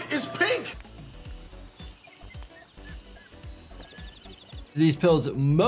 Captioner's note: birds chirping